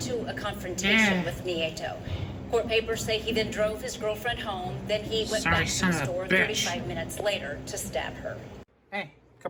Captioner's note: indistinct chatter on TV, music ends